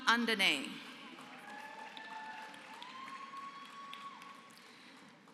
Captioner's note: applause